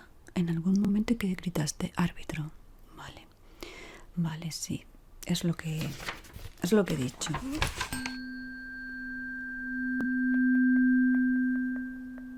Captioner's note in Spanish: campana